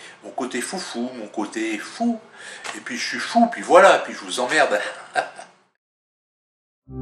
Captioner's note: laughter